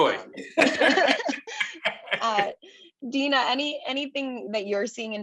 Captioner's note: laugh